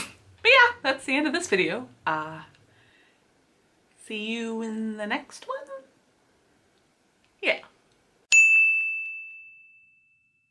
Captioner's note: ding